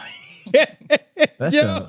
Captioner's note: laughing